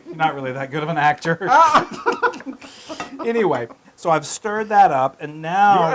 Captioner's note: laugh